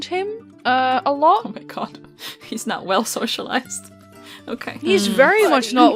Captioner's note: laughing quietly